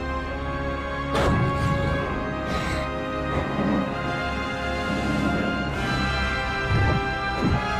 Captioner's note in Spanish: resoplando demoníacamente